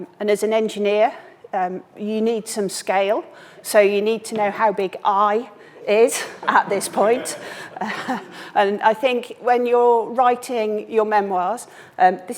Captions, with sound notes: and as an engineer you need some scale, so you need to know how big, "I" is at this point. (all chuckling) And I think when you're writing your memoirs,